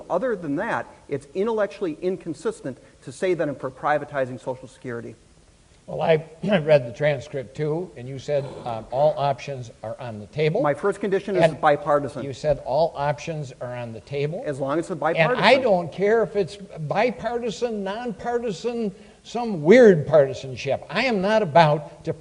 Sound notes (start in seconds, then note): 5.0 clears throat